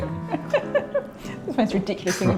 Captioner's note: laughing